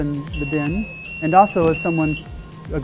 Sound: beeping sound

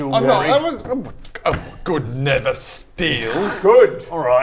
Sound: splutters

